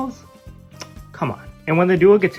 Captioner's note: lip smak